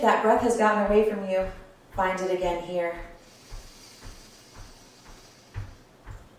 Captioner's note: audible breath in and out